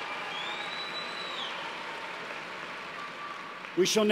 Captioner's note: applause